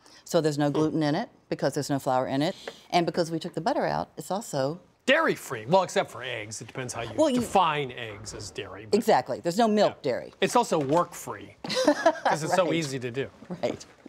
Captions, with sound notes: so there's no gluten in it because there's no flour in it. And because we took the butter out, it's also... - Dairy-free! Well, except for eggs. It depends on how you define eggs as dairy. - Exactly. There's no milk dairy. - It's also work-free. - (laughs) - Because it's so easy to do. - Right, right.